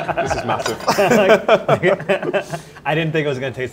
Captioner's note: laughing